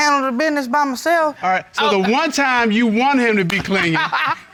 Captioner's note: laughs